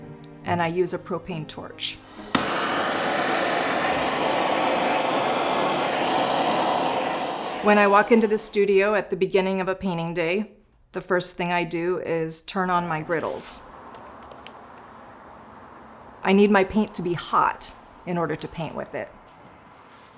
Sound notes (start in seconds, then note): 2.0 ignites, flame roars